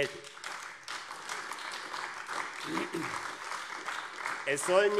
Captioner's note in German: Beifall AfD